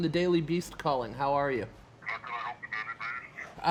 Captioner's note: man, distorted